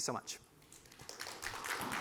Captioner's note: applause